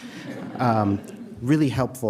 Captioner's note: audience chuckling